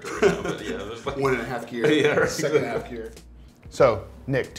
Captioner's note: laughs